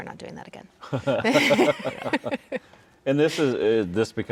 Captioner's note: all laughing